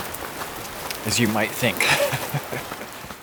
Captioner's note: laughs